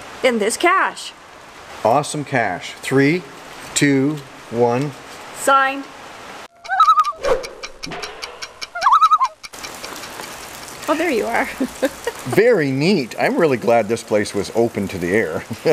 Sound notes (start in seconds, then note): 6.5 loon call